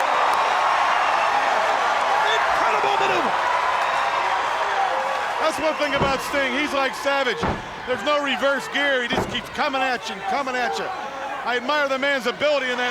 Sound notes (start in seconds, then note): 0.0 wrestler clapping; 3.7 crowd cheering